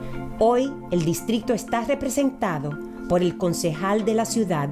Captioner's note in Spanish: speaks in foreign language